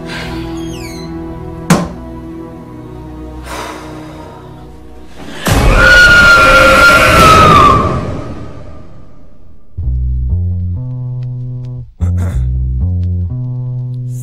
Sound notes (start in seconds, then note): 5.7 Ciara screaming; 5.7 dramatic music; 12.0 throat clearing